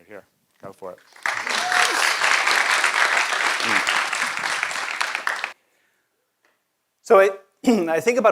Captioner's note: applause